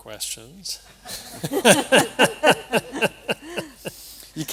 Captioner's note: laughter